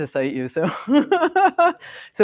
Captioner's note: laughs